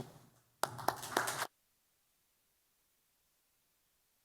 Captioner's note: applause